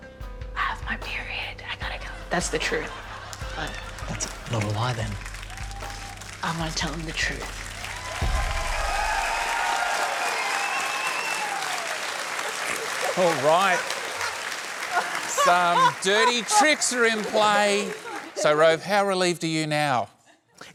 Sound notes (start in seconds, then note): 8.3 cheering and applause; 15.0 laughs